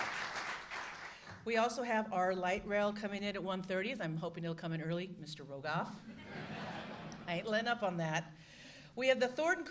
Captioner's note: applause